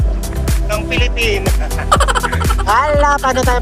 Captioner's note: laughing; laughing SFX